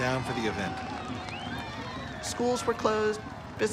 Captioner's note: cheers and applause